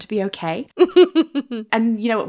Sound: laughing

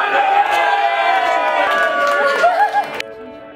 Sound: cheering

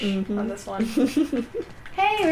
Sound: laughter

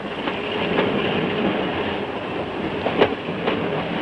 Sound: train rumbling

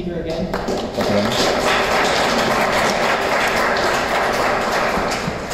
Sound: applause

